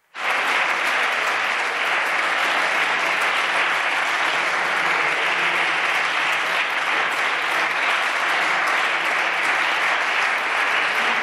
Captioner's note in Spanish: Varios señores diputados: ¡Muy bien!-Aplausos